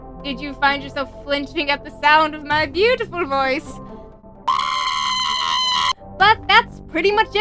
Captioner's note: demented Inking vocalization